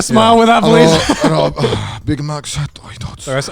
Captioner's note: mimics a drunk person; speaking Japanese